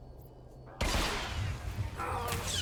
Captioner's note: gun firing